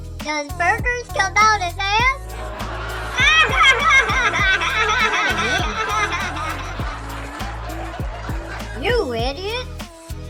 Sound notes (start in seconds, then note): 2.2 laughing